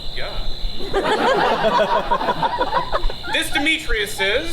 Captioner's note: audience laughs